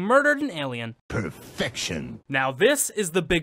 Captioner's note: suave voice